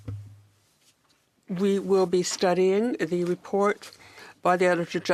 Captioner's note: speaking French